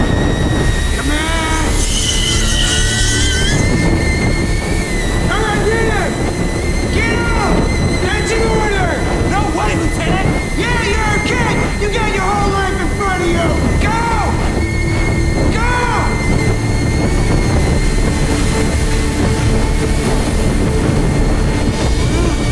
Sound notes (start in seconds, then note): 0.0 boiling whining; 17.1 clattering